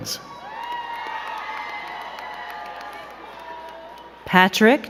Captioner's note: crowd cheering and clapping